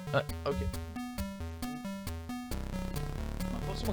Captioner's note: creaking noise